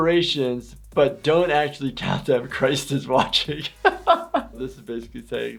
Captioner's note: laughs